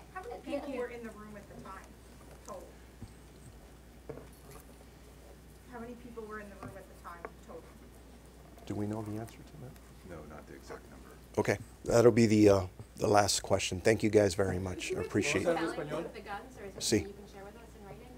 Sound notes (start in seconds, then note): 15.6 multiple reporters talking; 16.2 reporter in Spanish